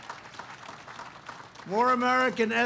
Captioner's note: applause